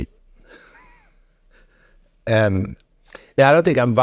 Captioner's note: chuckling